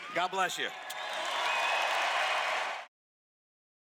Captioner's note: cheers